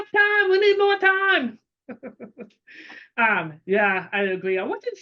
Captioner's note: laughing